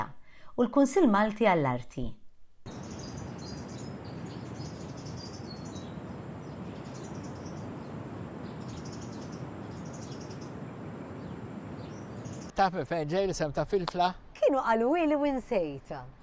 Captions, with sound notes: [birds chirping] Do you know where the name Filfla comes from? I was told, but I forgot.